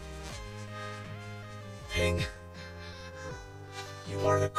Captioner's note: gasping